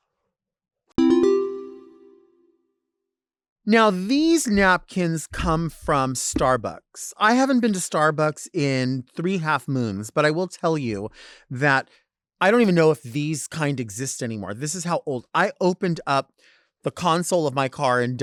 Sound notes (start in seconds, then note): 1.0 bell chiming